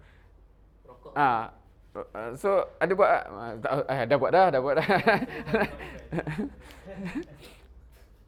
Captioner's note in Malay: ketawa